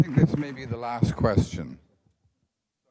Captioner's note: applause